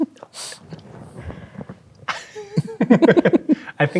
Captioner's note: chuckling; players laughing